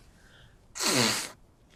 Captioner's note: wiping nose